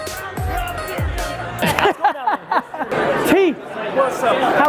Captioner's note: Gary laughs